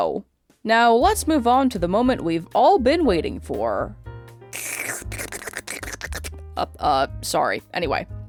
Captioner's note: unholy slurping noises